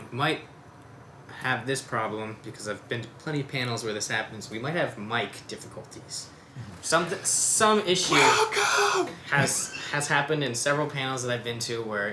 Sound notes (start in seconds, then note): 8.1 mock shouting